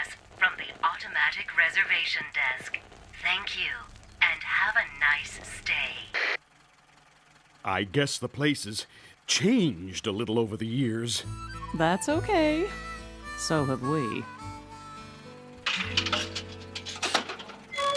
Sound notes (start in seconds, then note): 8.0 speaker Crackles